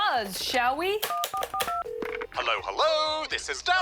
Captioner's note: phone rings